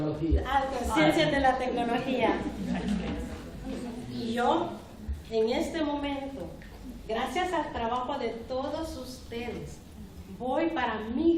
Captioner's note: speaking spanish; speaking spanish